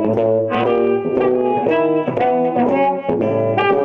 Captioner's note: none